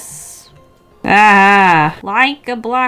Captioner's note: audible frustration